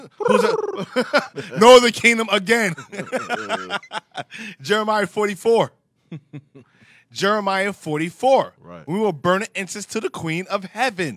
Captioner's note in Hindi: हंसते हुए